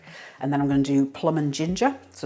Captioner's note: none